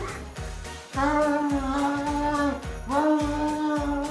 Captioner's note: Longbutt grunts